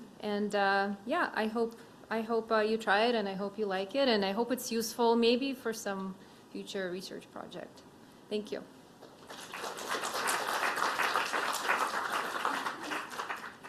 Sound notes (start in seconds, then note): 9.0 applause